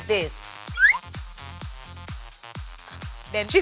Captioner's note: note whistles